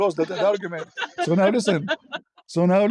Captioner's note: ketawa